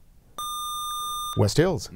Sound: buzzer

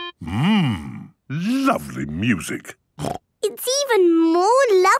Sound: playing theme song; snorting

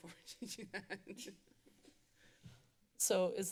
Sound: laughter

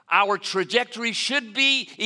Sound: none

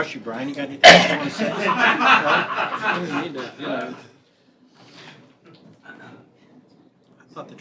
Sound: laughter

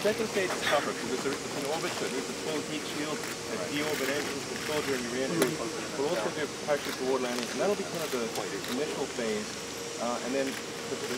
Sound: camera clicking

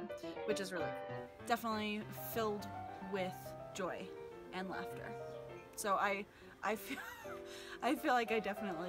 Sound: laughs

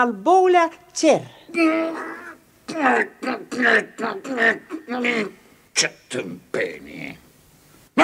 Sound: grumbles nervously

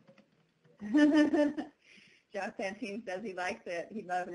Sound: laughing

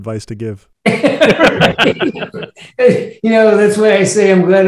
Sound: laughing

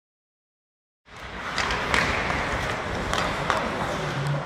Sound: shuffling

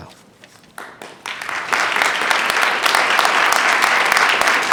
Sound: attendees clapping

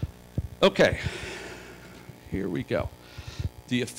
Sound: sigh

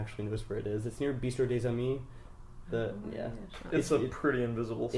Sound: quietly

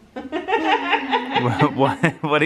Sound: laughs

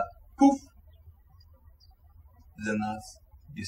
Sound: birds chirping

